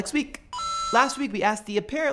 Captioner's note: ping